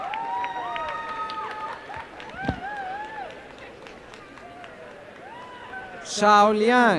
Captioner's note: cheering and applause